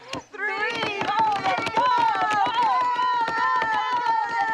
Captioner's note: cheering